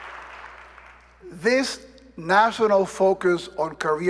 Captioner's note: applause